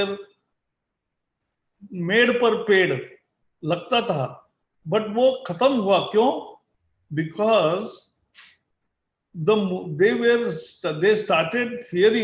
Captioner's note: speaks in Hindi – not transcribed